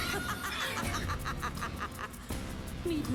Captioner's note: laughter; scream